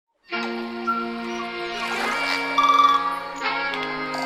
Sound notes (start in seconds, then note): 0.6 nature sounds